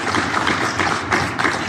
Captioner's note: applause